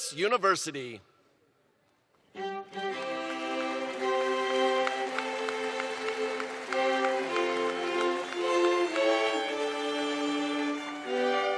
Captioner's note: applause